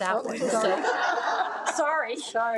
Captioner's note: attendees laugh